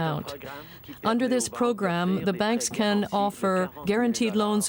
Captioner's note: speaking French